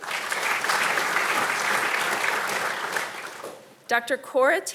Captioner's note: audience applauding